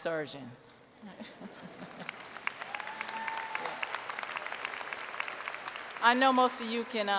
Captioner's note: applause